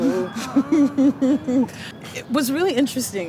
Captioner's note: singing; laughter